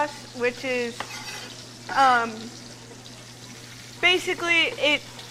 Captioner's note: metallic scraping